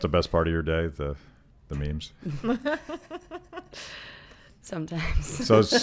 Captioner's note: laughing